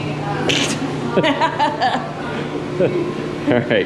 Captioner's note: chuckling